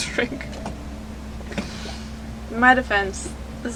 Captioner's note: chuckles